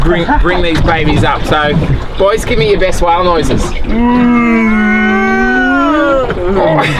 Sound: whale noises

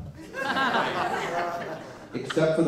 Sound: laughter

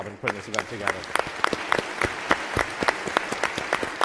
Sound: applauds

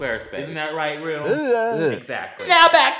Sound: drag queen makes noises

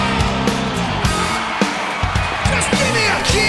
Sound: crowd

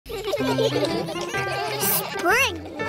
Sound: giggling

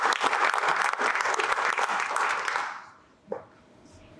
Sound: crowd clapping

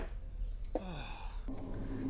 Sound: big sigh

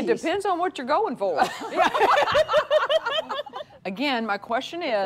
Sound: women laughing

